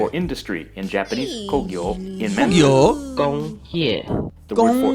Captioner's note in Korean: 만다린어